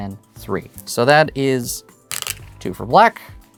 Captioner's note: stones rattling